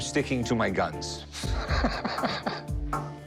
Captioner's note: laughs